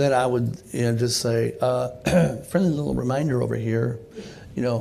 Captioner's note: clears throat